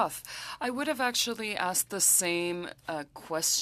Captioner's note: speaking French